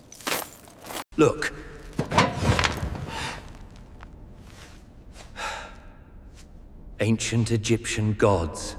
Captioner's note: shovel thuds